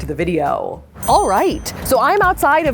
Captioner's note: bell ringing